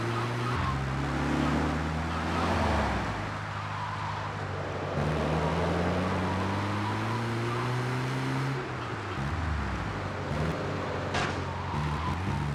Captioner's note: sirens wailing